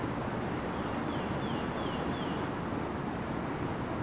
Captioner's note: chirping